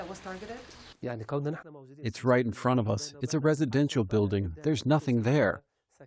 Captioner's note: through translator